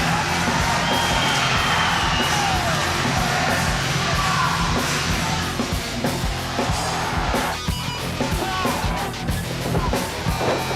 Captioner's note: crowd cheering